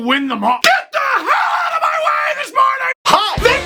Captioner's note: shouting